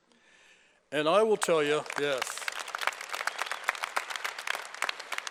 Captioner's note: applause